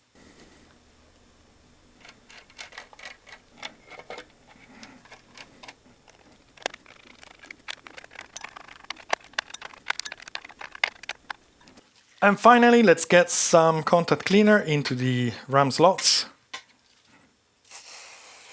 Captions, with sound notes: [typing] And finally, let's get some contact cleaner into the RAM slots.